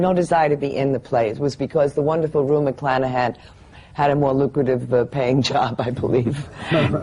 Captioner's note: laughs